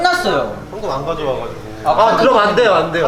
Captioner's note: almost in tears…